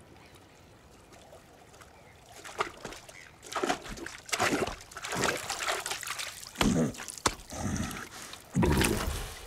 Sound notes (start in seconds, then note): 2.2 splashing; 7.4 grunts